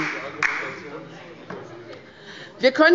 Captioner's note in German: Beifall bei Abgeordneten der LINKEN